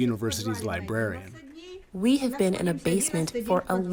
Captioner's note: through translator